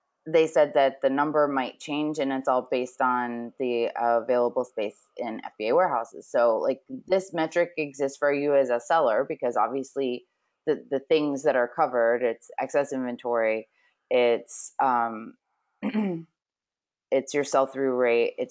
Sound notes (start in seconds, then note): 15.8 clears throat